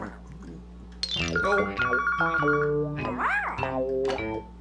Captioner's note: phone Rings